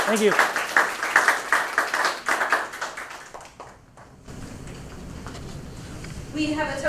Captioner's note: applause